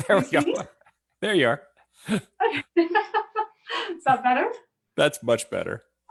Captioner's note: laughs